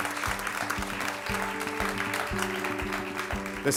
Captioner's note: ^applause^